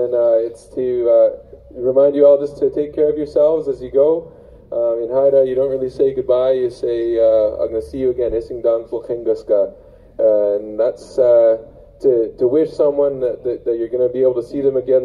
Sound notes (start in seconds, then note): 8.7 speaks Haida